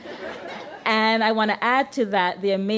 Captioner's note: laughter